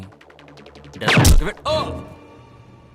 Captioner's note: Gunshot